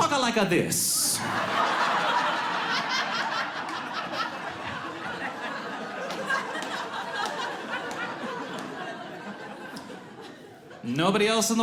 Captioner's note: audience laughs